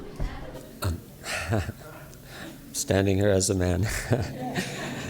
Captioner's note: off screen—nervous male laugh